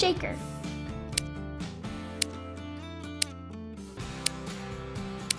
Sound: clock ticking

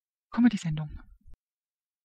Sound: fast Pronunciation

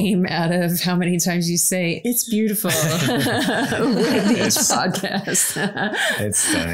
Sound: everyone laughs

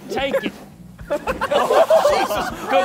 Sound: contestants laughing

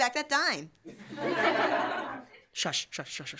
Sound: laughter

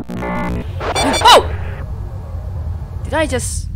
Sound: Leaper attack sound

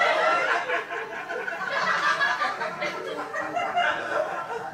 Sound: audience laughing

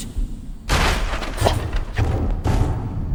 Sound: sound of bathroom door breaking

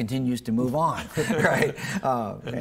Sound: both laughing

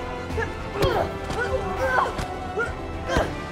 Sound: Angela grunting; dramatic music

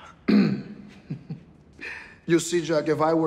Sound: sighs, clears throat; chuckles

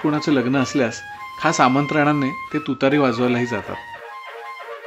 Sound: horn

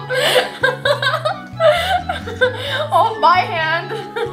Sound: laughter

